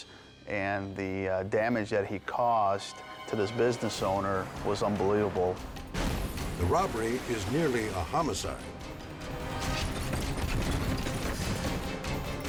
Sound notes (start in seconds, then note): 5.8 glass shatters; 9.5 tense music